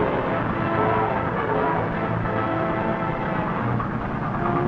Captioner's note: train horn toots